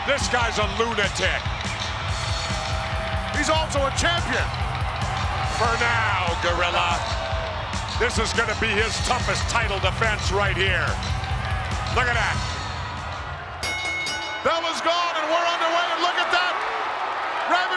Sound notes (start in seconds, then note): 13.5 bell dinging